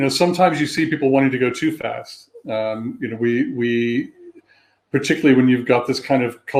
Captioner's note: erm